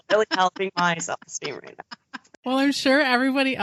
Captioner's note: both laughing